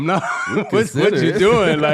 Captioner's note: laughing